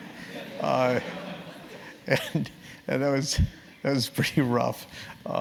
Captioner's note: laugh